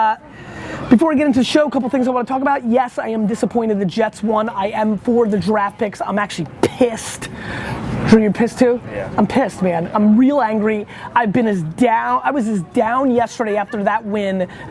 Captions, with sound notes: Before we get into the show a couple of things I want to talk about. Yes, I am disappointed the Jets won. I am for the draft picks. I am actually pissed. Drew, you're pissed too? - [Voiceover] Yeah. - I'm pissed man. I'm real angry. I've been as down, I was as down yesterday after that win